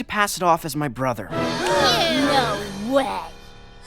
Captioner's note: shocked gasps